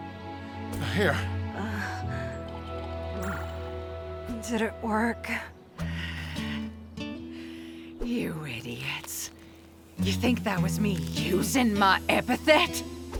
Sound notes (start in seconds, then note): 5.8 Zora sighs